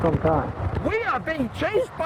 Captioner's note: wind noise